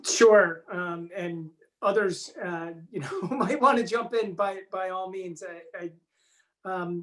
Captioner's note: chuckles